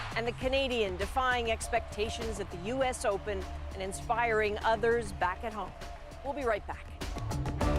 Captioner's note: cheers and applause